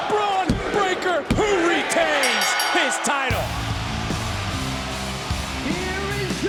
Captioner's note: bell rings